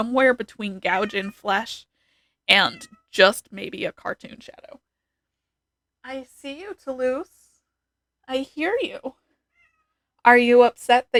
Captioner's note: meow